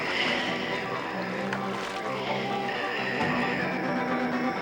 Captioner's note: Sleestak wheezing